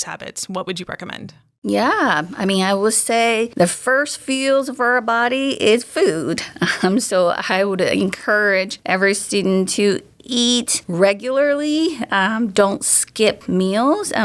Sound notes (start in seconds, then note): 6.4 chuckles